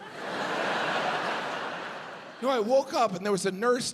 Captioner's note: audience laughs